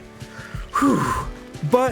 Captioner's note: exhales